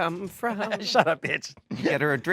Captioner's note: laughing